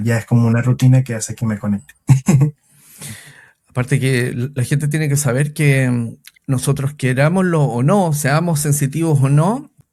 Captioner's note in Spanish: risas